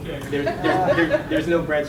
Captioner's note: students laugh